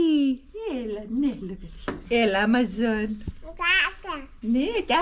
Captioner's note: speaking Cypriot